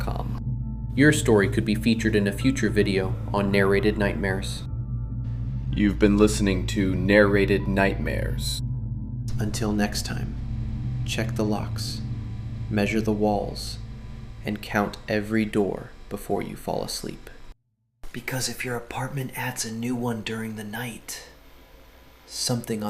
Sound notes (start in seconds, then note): 8.6 quietly; 17.4 whispers